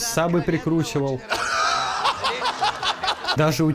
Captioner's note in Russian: ржот